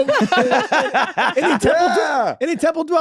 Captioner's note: everyone laughs